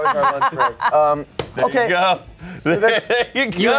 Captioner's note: laughs